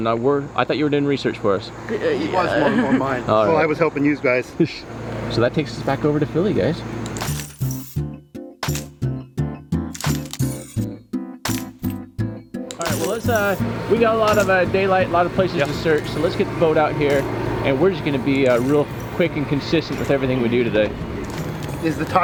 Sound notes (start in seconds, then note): 2.0 boy chuckles; 7.4 pop music